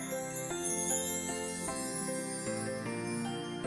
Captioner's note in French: 🎶 Son Féérique 🧚‍♀️🎶